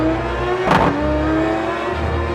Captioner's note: car rattles